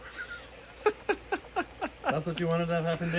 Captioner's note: laughing